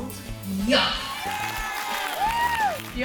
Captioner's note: all applauding and cheering